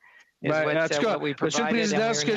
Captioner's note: speaking French